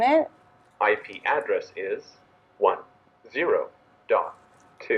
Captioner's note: automated Male Voice